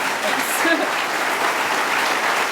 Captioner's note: applause